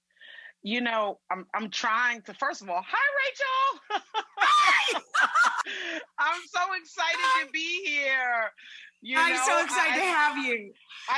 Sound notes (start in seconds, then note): 3.8 laughs; 4.4 screams